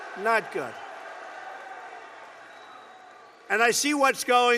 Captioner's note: applause